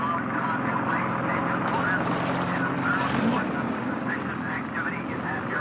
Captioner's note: engine noises drown out other sounds